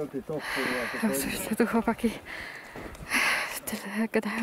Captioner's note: the guys are talking in the background